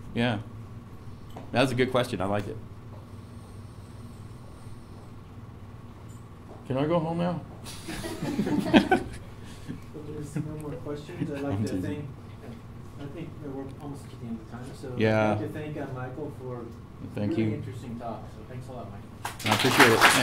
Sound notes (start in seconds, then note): 7.8 laugh